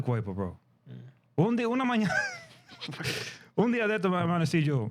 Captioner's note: speaking In Foreign Language